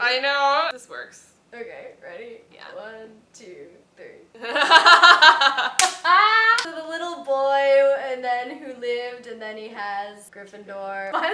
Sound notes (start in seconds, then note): 4.4 laughter